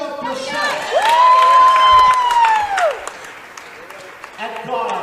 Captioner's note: cheering